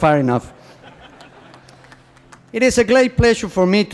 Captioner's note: laughter